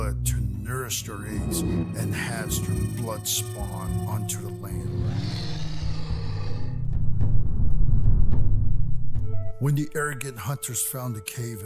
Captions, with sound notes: to nourish their eggs and hatch their bloodspawn onto the land. [Distant monster roar] [Whoosh] When the arrogant hunters found the cave